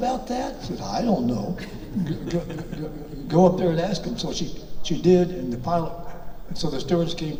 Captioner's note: audience laughs